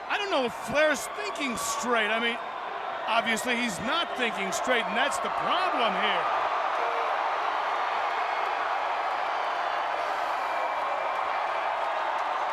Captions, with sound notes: I don't know if Flair's thinking straight. Obviously he's not thinking straight, and that's the problem here. (crowd cheering)